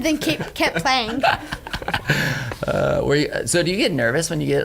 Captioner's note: laughing